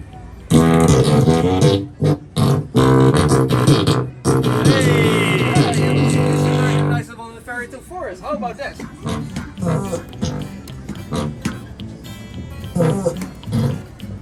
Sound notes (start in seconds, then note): 0.0 farting Organ sounds; 0.5 more farts; 9.0 fart